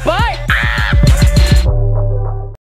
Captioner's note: screams